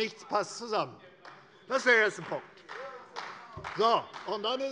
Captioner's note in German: Beifall bei Abgeordneten der CDU